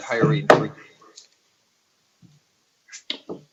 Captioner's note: gavel bangs